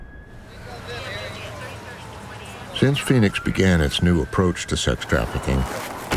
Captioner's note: siren blaring, radio squawking